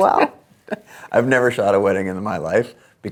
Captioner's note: laughs